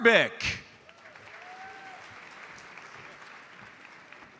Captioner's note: audience applauds